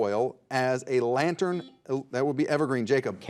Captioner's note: buzzer dings